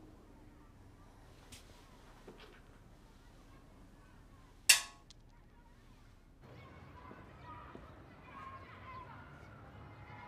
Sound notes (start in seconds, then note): 4.8 rock thudding